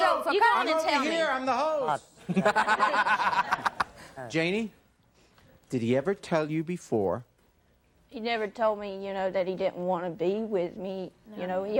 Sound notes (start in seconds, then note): 2.3 laughing